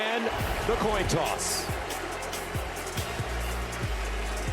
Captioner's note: cheers and applause